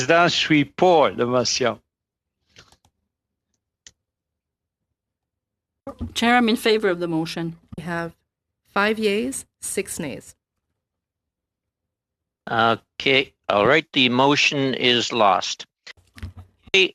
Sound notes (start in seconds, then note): 0.2 speaking FRENCH